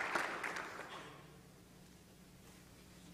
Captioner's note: applause